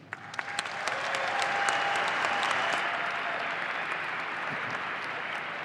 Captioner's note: audience applauding